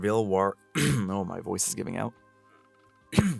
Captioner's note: clears throat